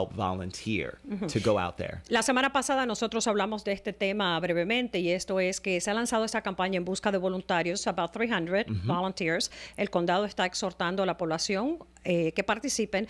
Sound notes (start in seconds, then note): 8.7 Hablando ingl\s